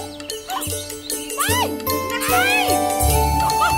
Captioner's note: Girls shouting playfully